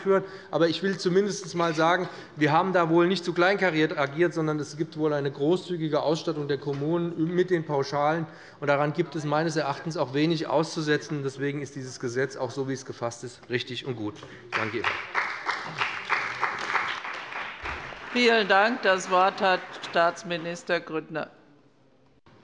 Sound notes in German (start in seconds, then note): 14.5 Beifall bei dem BÜNDNIS 90/DIE GRÜNEN und der CDU